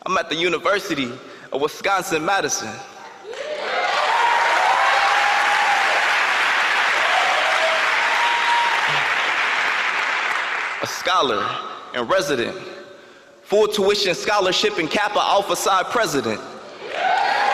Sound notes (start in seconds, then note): 3.3 audience applauding